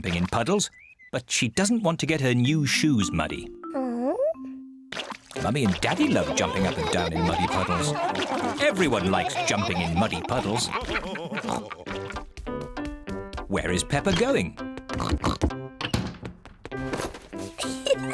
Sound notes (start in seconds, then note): 10.4 all laughing; 15.0 oinks; 17.6 giggles